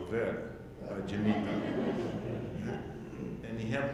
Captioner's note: audience laughing